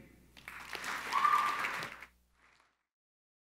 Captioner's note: crowd applauding